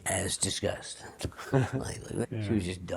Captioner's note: small awkward laugh